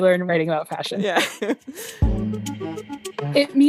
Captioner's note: laughs